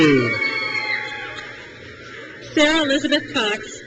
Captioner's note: crowd cheers